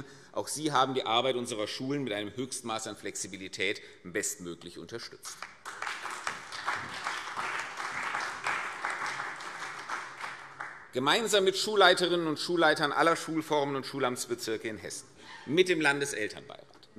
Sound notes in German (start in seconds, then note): 5.3 Beifall CDU, BÜNDNIS 90/DIE GRÜNEN und vereinzelt SPD